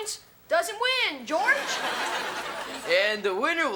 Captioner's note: audience laughs